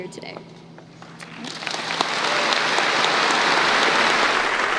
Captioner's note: applause